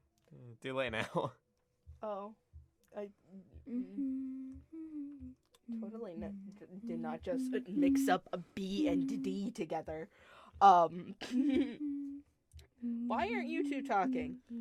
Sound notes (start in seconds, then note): 3.3 humming